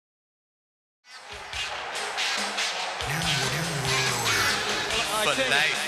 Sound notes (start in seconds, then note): 1.1 crowd cheers; 1.4 guitar funk music plays